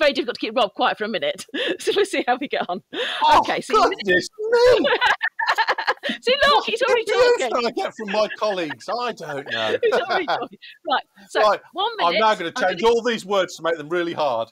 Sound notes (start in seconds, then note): 9.9 laughter